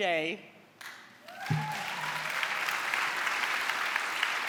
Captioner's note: cheering and applause